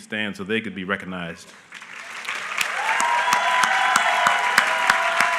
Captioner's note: applause